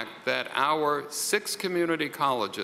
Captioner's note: none